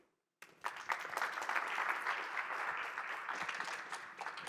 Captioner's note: clapping